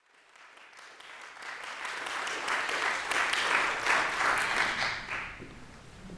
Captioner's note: applause